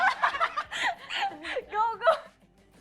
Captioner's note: laughs